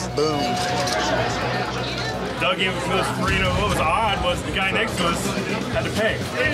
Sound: loud chatter

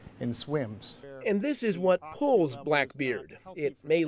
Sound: voiceover

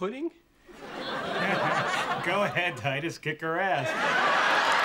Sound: chuckling

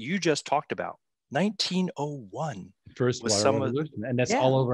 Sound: group chattering

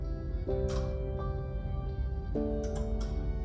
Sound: lights click on; music playing in background

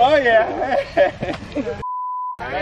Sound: laughs; beeps

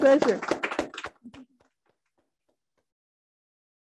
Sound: audience clapping

